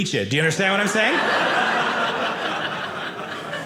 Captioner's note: audience laughing